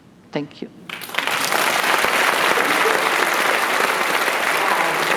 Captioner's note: applause